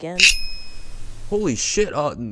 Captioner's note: Miss Circle's compass scrapes the floor